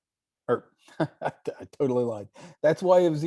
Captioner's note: laughs